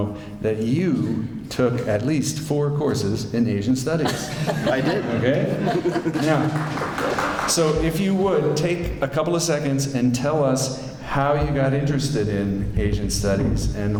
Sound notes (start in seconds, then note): 4.0 laughter; 6.2 light clapping